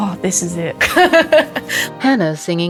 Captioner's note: laughs